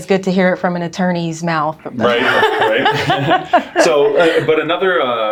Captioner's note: laughing